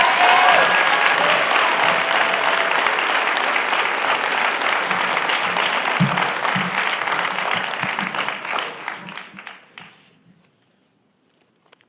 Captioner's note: applause